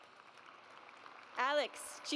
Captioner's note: audience applauds